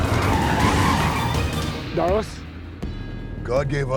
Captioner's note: tires screeching